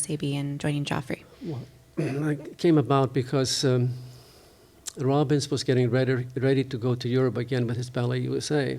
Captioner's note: clears throat